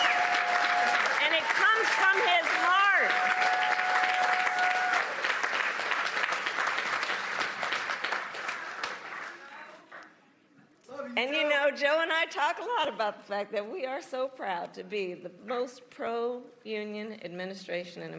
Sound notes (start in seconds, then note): 6.9 applause